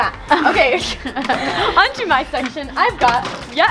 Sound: both laugh

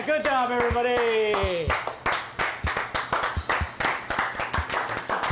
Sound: clapping

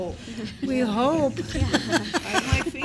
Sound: laughter

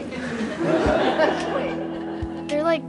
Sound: laughter

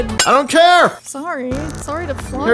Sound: glass breaks

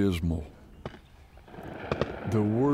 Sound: gunshots in the distance

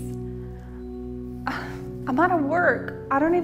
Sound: sighing

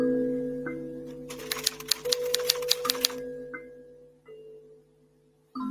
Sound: typewriter clattering

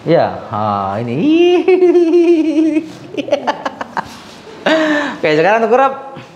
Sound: laughs

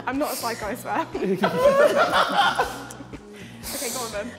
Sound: JJ laughing

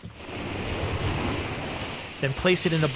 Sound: whooshing

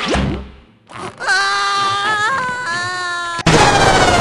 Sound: a scream of agony

